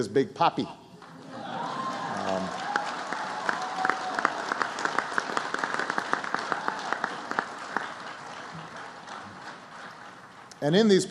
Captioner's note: applause